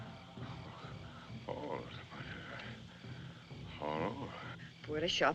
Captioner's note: murmuring